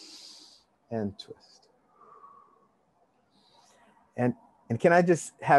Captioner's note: inhale deeply; exhale deeply